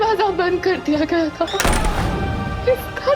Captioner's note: doors banging